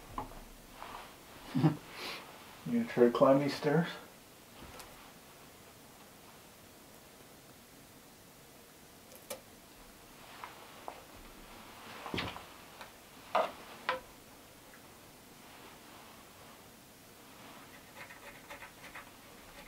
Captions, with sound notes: (chuckles) You gonna try to climb these stairs?